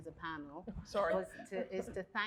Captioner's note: chuckles